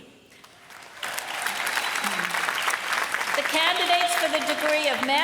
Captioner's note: applause